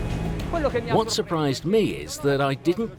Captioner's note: speaking foreign language